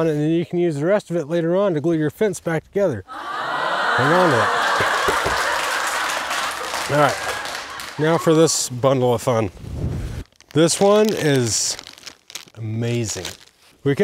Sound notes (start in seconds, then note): 3.1 audience gasping; 6.2 audience applauding